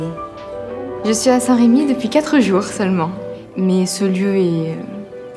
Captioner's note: speaking in foreign language